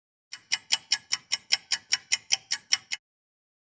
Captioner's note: sound of a ticking clock